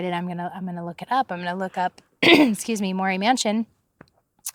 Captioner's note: clears throat